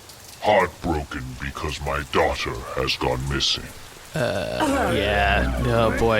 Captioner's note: the crew makes uncomfortable noises